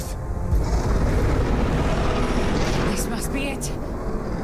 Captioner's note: wraith roaring